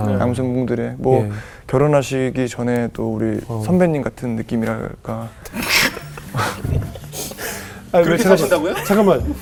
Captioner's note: laughing together